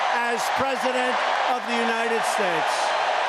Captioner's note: cheering and applause